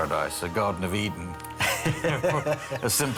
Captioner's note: laughing